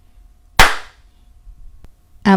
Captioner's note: clap